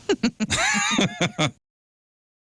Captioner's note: laughing